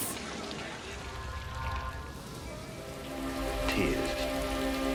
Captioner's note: rain sounds